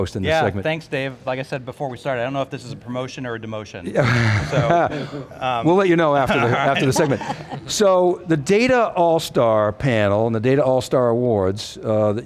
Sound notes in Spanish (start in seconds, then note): 3.9 riéndose